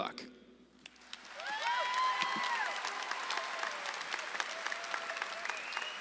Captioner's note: audience claps and cheers